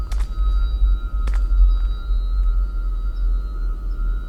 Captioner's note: footsteps